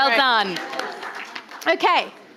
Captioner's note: audience applauding